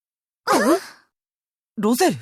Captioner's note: concerned gasps